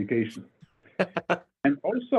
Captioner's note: laughing